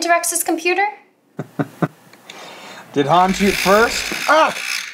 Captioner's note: chuckles